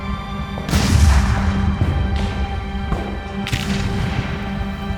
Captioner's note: tense music continues; cannons booming; gunshot cracking continues